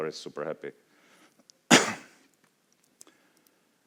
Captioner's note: coughs